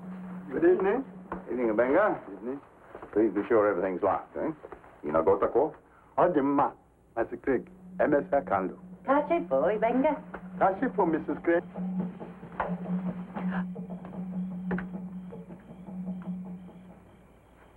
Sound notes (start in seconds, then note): 5.0 speaking in foreign language; 12.4 drums beating in distance